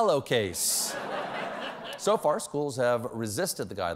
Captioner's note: laughter